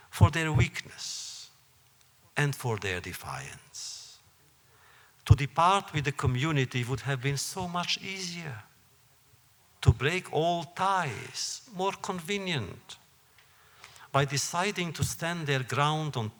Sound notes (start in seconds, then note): none